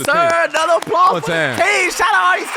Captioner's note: audience applauding